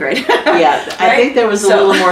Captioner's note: laughter